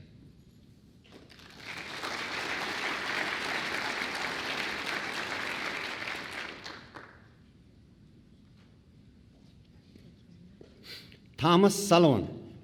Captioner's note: applause